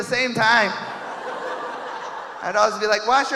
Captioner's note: audience laughing